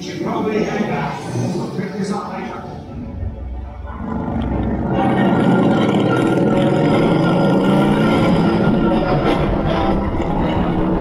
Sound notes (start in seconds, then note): 4.3 engine revving; 4.3 orchestral music